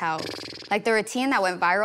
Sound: Damson blowing raspberry

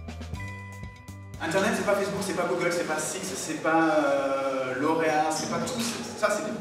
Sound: speaking in a foreign language

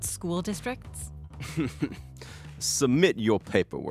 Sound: Deacon laughing

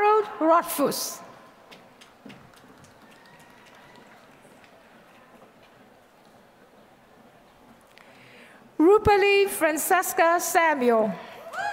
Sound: applause; applause

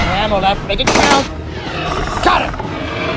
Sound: shot fired

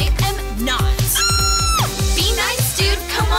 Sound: screams

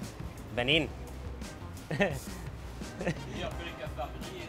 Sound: speaking Arabic

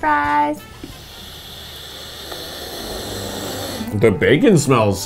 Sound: sniffing

